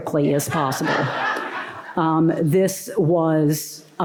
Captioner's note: laughter